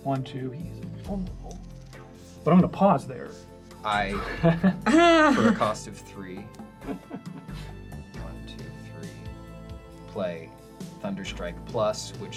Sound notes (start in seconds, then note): 4.2 all laugh